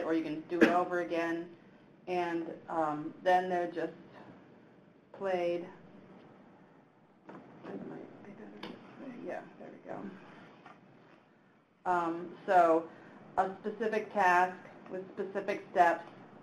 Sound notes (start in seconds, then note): 8.3 speaks away from mic